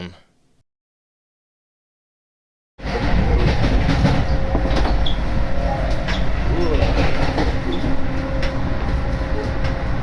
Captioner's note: train switches tracks